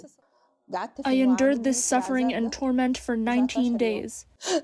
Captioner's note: through translator